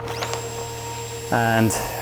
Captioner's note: drilling